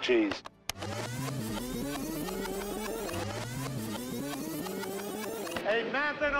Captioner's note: video Rewind Sound